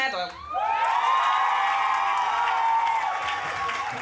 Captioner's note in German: Jubelrufe